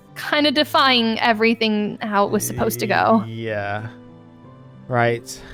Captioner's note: giggles